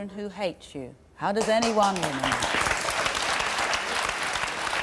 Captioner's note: crowd clapping